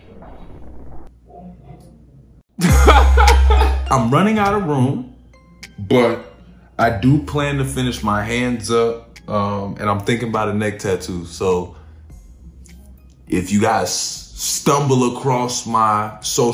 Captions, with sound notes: [laughing] I'm running out of room but I do plan to finish my hands up. And I'm thinking about a neck tattoo. So if you guys stumble across my social handles, you know,